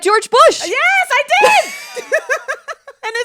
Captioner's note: laughs